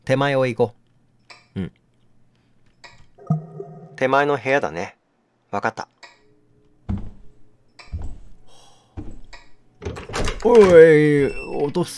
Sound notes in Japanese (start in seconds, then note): 7.9 足音：ﾄﾝ…ﾄﾝ…; 9.8 扉を開ける音：ｶﾞﾁｬﾝ！